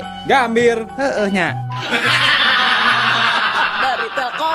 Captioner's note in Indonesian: tertawa